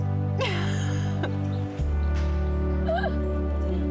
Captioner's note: laughing